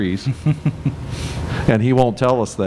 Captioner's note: laughs